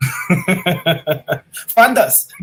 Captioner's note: laughs